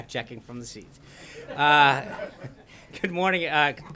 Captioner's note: laughter